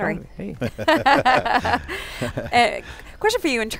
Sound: laughing

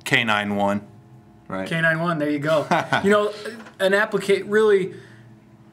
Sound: laughs

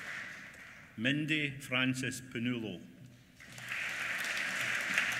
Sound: applause

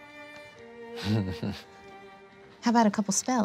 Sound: chuckles

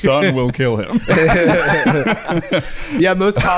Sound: all laughing

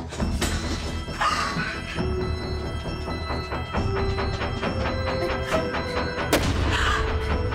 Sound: tense sinister music; Jenelle gasps

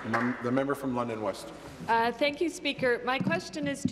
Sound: applause

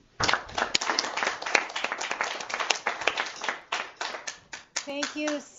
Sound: applause

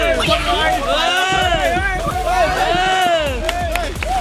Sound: cheering; applauding

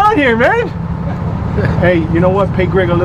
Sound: laughs

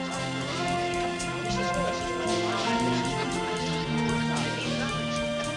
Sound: chatter

